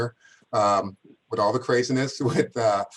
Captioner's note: laughter